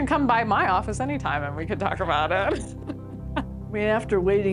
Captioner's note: laughs